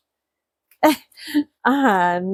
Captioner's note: laughs